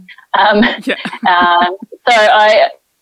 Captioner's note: laughing